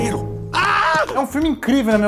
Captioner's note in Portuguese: grito